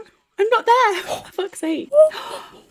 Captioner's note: gasp